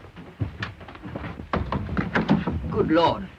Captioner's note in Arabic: صوت الباب ينفتح